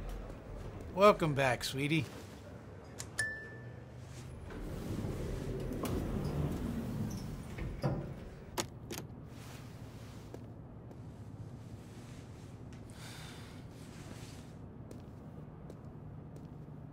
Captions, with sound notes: - Welcome back, sweetie. (elevator chimes) (June sighs lightly)